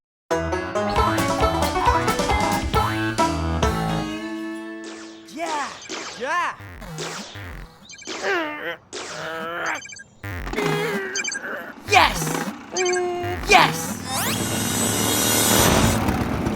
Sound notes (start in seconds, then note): 4.8 video game beeps and dings; 7.1 grunts of effort; 12.1 motorbike engine revs; 12.7 video game beeps